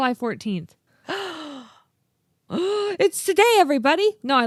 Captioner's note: both gasp